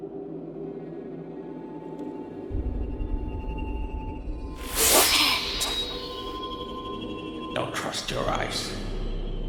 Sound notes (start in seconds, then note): 4.6 woman snarls